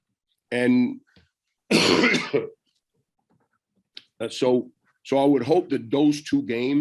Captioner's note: coughs